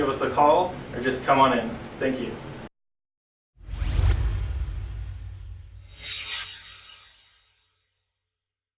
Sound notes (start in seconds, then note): 3.6 swoosh